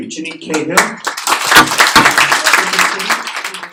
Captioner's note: audience clapping